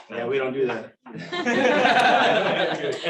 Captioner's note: laughter